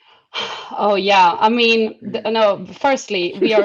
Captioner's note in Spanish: suspiros